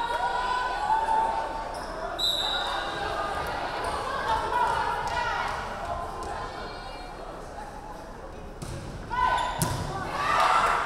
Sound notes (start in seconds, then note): 2.1 referee whistling